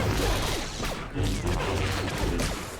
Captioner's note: gunfire